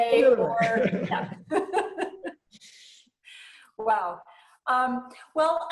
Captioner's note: chuckles